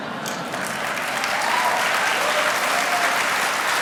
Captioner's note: audience hollering and applause